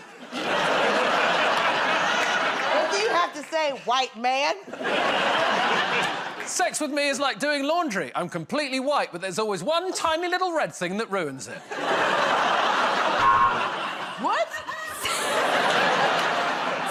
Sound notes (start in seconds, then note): 0.0 laughter; 4.6 laughter; 13.2 buzzer